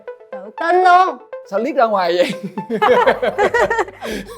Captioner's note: laugh